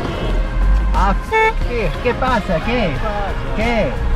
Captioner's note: honks; in Spanish; passerby in Spanish